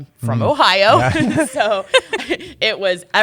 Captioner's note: chuckles